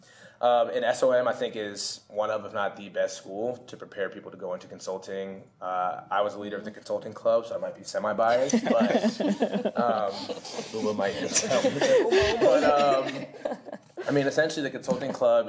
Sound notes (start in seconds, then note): 8.3 laughter